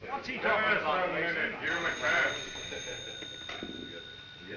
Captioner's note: men chattering indistinctly; phone rings